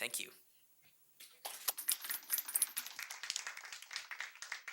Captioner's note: group applauds